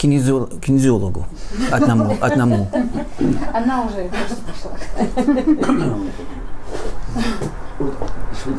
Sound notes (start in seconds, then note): 4.1 laughter